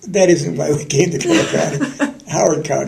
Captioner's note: laughter